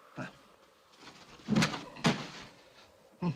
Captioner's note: article clatters on ground